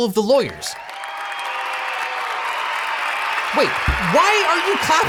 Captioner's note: crowd cheering